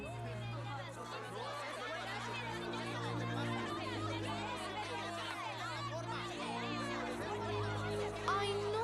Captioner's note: unfriendly chattering